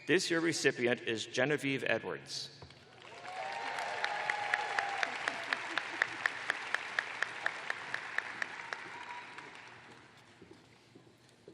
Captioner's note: cheers and applause